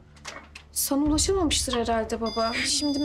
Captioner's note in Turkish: Telefon zili sesi